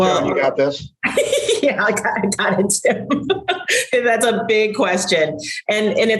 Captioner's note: laughs